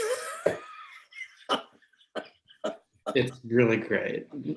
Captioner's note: laughter